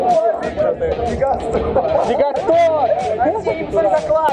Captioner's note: addition sounds